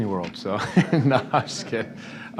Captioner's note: laughter